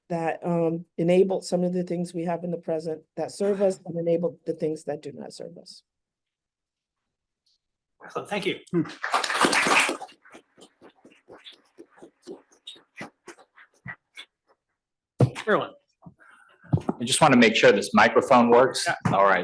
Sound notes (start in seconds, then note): 8.9 attendees clapping